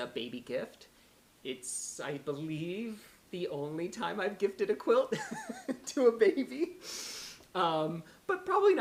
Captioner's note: laughter